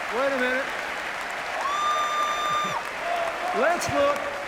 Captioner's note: cheers, applause